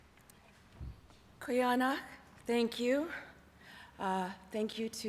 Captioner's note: non-english